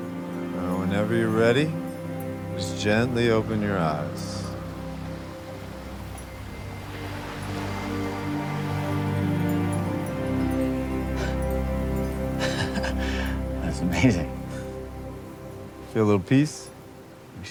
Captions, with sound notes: Now whenever you're ready, just gently open your eyes. (waves lapping) (Dayne chuckling) - That's amazing. - Feel a little peace?